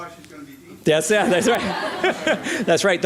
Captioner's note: laughter